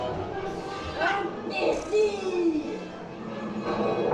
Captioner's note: Seven Dwarfs speak in French